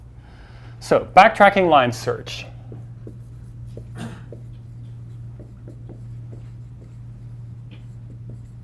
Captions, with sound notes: So backtracking line search. (marker sliding)